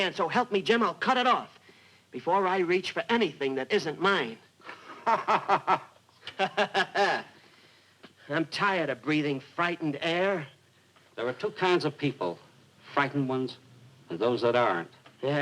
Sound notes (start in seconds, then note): 4.6 laughing; 6.2 mock laughing